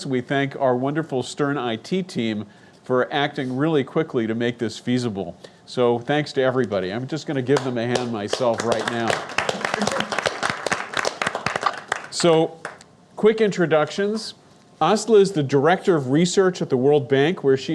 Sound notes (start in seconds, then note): 8.2 claps; 10.0 audience clapping